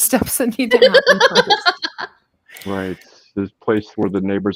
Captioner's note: laughs